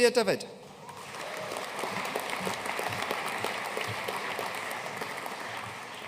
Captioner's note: audience cheering and applauding